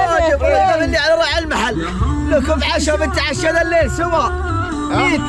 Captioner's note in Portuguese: em árabe